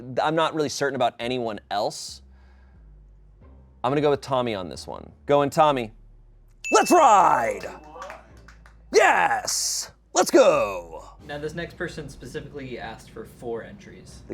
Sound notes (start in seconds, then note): 6.7 bell dings; 6.7 audience applauding